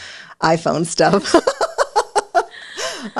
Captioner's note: laughs